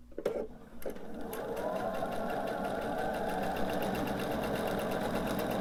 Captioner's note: sewing machine whirring